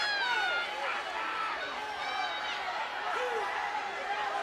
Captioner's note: audience chattering